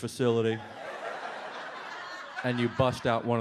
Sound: audience laughs

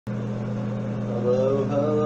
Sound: humming of ceiling fan

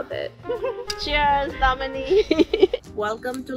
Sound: laughs

